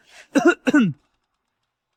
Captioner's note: ahem